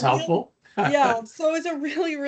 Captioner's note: laughing